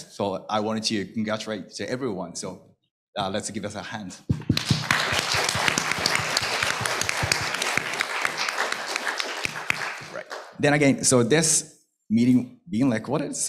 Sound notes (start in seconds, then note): 4.4 applause